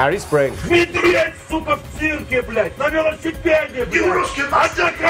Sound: angry shouting in russian

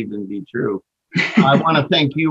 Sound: laughing

